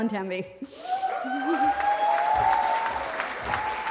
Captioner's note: cheering